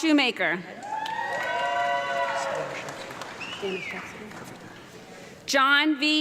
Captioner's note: audience clapping and cheering